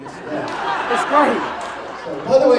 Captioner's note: laughter